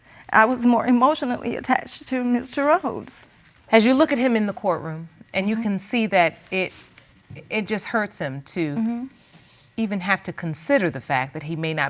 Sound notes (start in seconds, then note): none